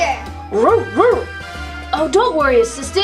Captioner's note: barking